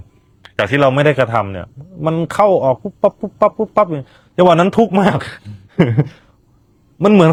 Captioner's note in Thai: เสียงหัวเราะ